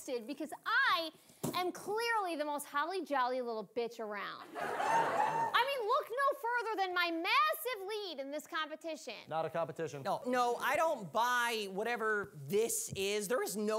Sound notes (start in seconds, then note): 4.5 audience laughing